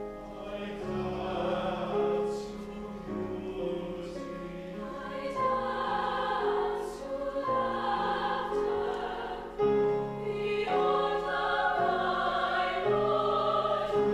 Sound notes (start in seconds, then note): 5.1 high voices